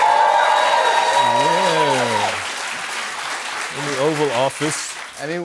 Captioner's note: cheers and applause